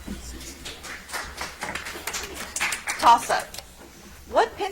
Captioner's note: audience applauds